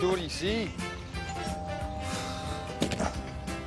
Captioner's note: doorbell ringing